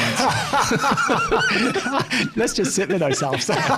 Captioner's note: all laughing